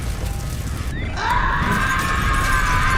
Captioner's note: screams